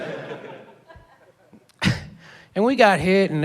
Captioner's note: laughs